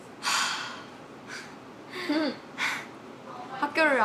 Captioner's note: sighs